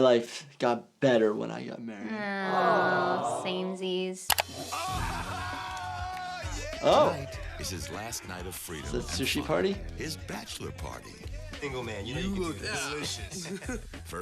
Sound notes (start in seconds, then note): 4.5 men cheering